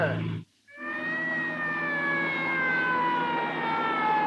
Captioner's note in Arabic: صافرة الإنذار تدوي